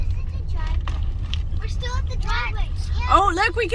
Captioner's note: children in background